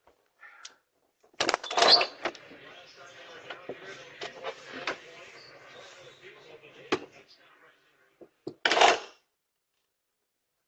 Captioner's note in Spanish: Charla indistinta